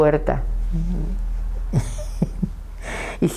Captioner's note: she laughs